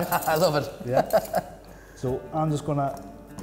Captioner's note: laughs